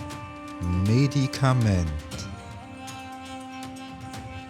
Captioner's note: german